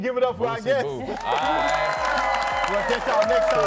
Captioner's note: audience cheering